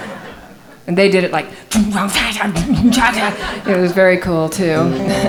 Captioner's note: laughing; mimicking rock music